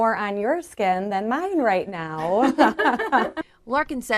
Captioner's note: laughs